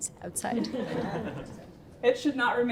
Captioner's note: laughter